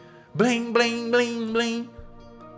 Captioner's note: bell chiming